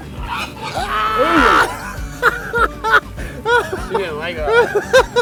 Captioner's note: laughing